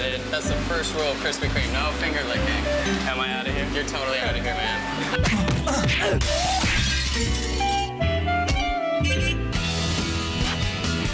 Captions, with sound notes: - I did. - That's the first rule of Krispy Kreme, no finger licking. - Am I out of here? - You're totally out of here, man. (grunting) (glass breaking) (upbeat music)